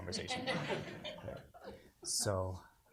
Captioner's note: audience laughs